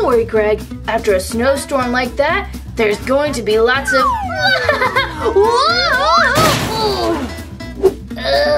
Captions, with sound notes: Don't worry Greg, after a snowstorm like that there's going to be lots of (sliding flute) (crashes) - Ugh!